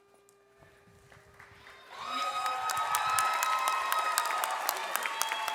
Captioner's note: audience applauds